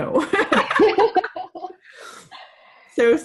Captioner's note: ladies laughing